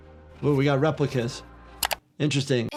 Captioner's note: dramatic music; screen clicking